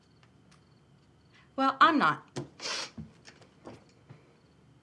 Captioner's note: sniffles